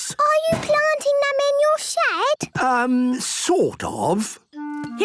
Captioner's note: none